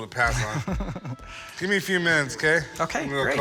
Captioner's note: laughs